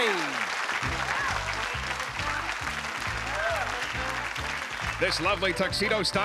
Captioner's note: applause